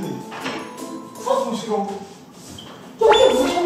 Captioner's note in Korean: 놀란 탄성